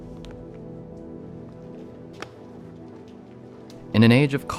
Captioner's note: quiet footsteps